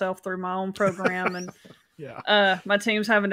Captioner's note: laughs